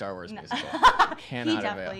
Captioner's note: laughter